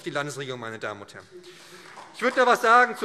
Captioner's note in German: Beifall SPD